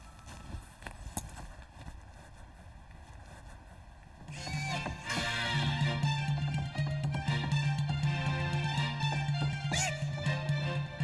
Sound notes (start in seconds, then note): 4.2 hollering; 4.3 upbeat music